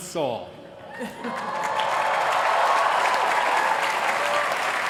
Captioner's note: applause